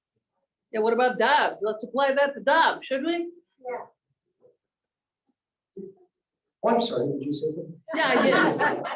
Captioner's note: laughter